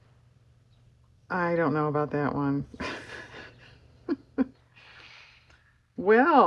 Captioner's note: laughs